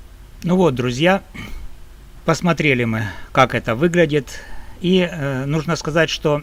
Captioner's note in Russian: прочистив горло